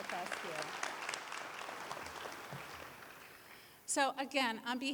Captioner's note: applause